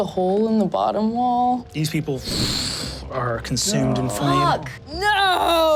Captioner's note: whoosh